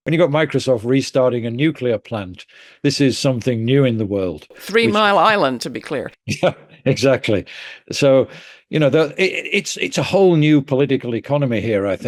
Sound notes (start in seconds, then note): 6.6 laughing